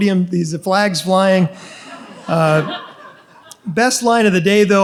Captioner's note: audience laughs